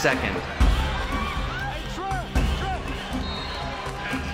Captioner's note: fans Yell